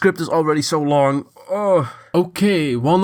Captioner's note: exasperated sigh